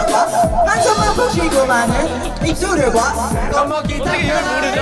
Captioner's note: laughing